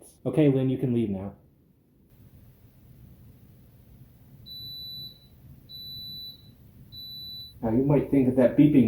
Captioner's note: three beeps